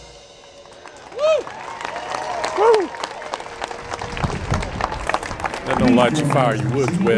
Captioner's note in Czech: Potlesk